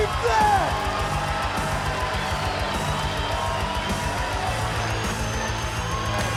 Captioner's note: crowd cheering; rock music